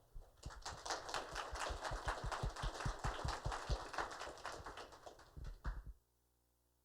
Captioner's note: applause